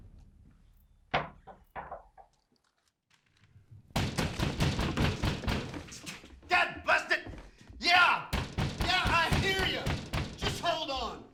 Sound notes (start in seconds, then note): 3.9 pounding at door